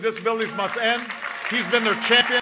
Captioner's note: applause